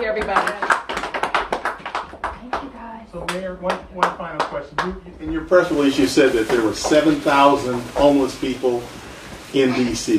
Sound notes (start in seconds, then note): 2.9 applause